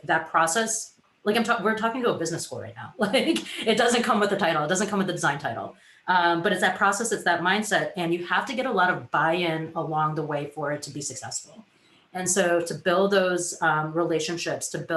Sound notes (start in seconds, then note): 3.0 giggles